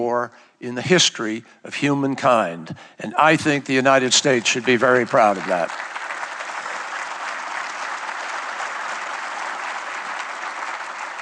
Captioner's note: applause